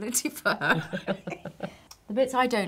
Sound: laughing

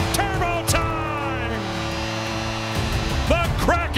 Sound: timer buzzing

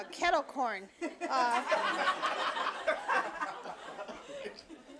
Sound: audience laughing

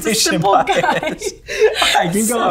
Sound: both laughing

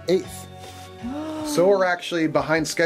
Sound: woman gasping

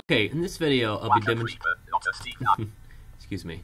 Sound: laugh

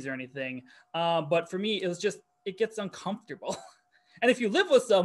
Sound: chuckles

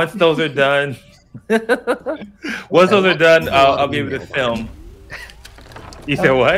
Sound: giggling

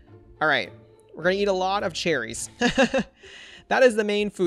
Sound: laughs

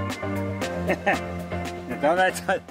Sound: laughs

